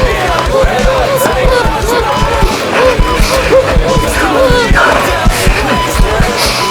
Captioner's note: hospital noises, breathing and john panicking